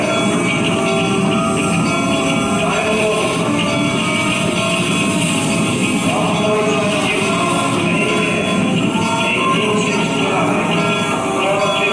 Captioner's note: train noises with playing